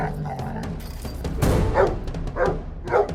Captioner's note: dog snarling; fence rattling; dog barking